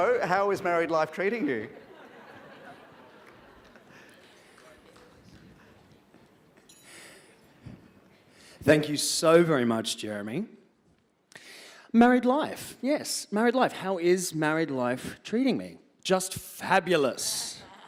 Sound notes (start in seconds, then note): 1.7 laughter